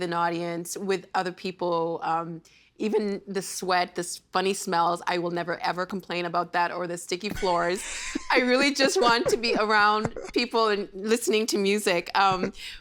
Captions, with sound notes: with an audience, with other people, even the sweat, the funny smells, I will never, ever complain about that, or the sticky floors. (Laughing) I really just want to be around people and listening to music.